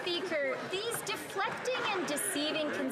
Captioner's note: some Applause